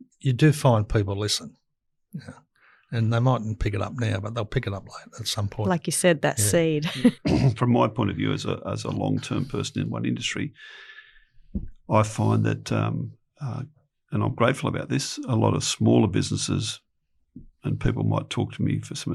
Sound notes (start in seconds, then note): 6.4 laughs